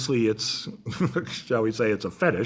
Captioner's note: chuckles